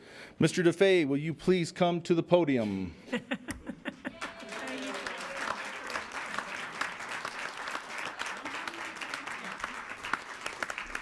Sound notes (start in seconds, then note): 3.1 laughing; 4.1 cheering and applause